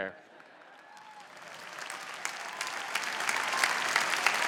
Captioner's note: applause